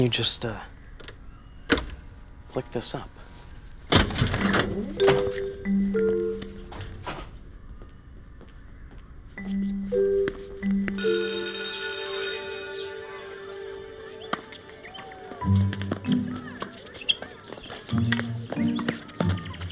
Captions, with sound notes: (metal clanks) flick this up? (door clatters open) (playful music) (school bell buzzes) (people talking and children playing) (balls thwack) (shoes squeaking)